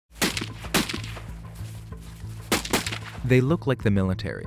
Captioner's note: gunfire